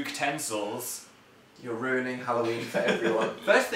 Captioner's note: giggles